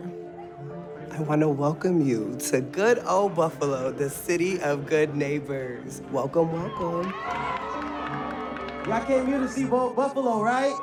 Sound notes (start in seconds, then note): 6.5 audience cheering